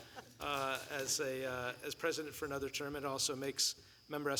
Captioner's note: laughter